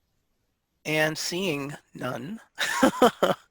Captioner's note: laughing